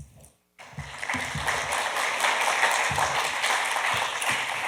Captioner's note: audience applauding